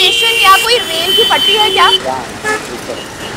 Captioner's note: Horns beeping